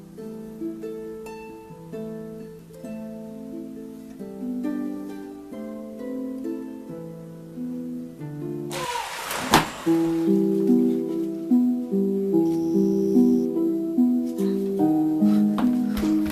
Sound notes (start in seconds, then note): 8.8 echoing cry with water splashing; 12.1 mysterious music